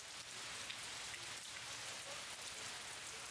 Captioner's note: rain pattering